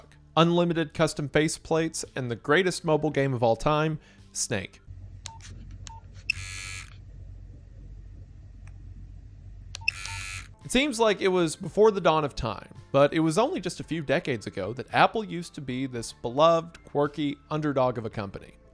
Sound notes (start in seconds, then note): 5.2 buttons beeping; 5.9 phone buzzes